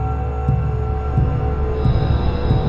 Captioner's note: none